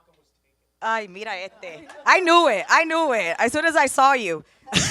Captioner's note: foreign language